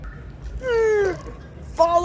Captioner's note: grunts